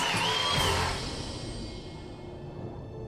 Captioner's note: crowd cheers